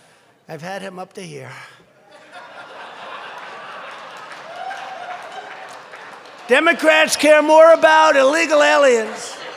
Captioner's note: laughter; laughter and applause